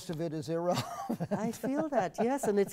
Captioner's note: laugh